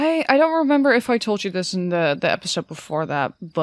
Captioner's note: none